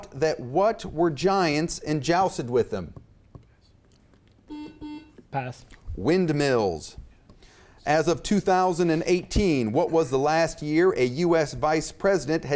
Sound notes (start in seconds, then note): 4.5 beep